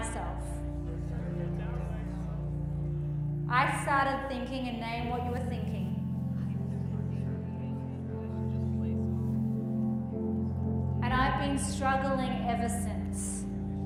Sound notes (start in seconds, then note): 6.1 group mutters